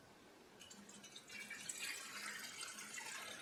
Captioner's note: sound of pouring water